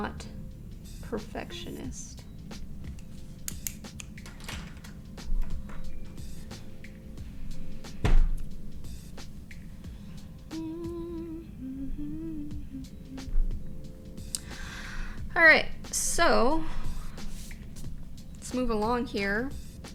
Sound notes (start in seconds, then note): 10.4 humming